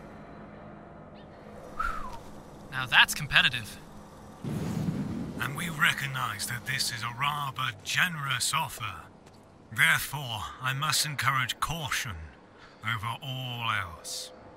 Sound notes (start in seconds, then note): 1.6 whistles